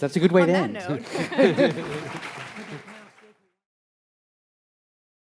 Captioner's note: all applauding